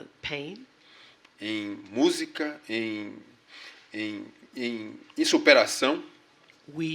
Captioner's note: speaking portuguese